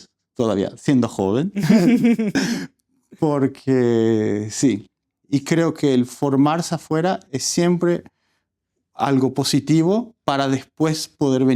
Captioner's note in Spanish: risas